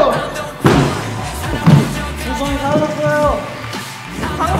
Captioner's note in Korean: 착착 맞는 발소리